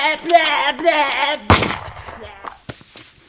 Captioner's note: gunshot